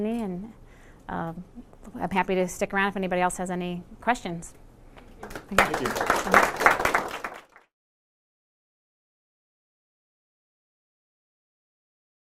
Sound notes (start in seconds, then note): 5.2 applause